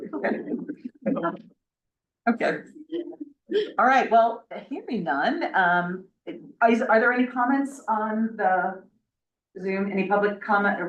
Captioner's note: laughs